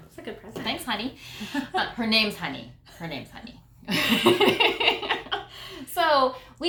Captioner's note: laughter